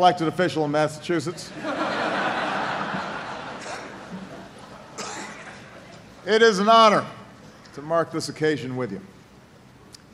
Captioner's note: laughter